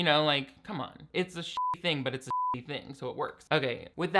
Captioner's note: beep